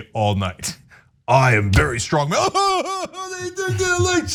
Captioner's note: laugh